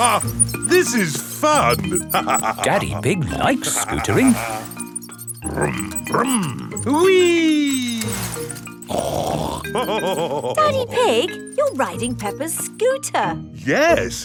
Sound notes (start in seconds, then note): 0.1 laughs; 9.3 snorts and laughs